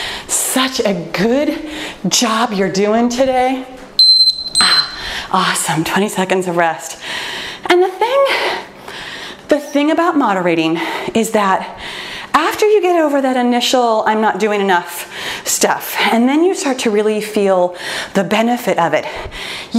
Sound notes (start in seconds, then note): 4.0 timer beeping